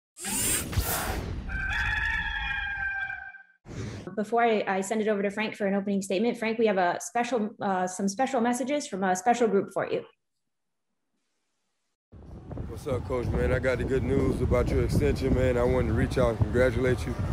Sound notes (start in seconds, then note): 1.4 cock crows